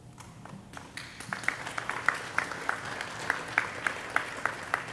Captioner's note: audience applauding